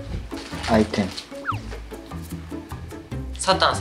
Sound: rummaging

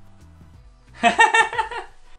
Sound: laughs

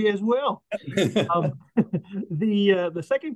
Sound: people laughing

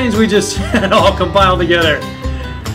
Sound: laughing

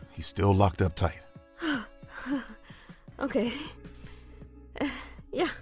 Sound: relieved breath

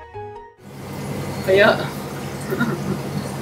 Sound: swimming

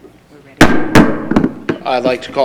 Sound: gavel bangs

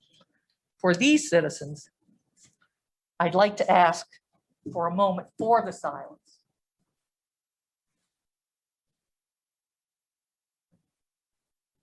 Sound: moment of silence

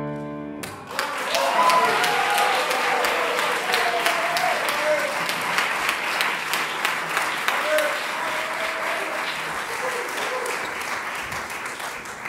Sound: audience applause

